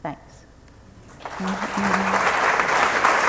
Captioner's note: applause